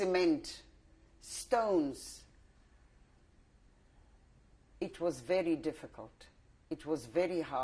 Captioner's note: pauses for 3 seconds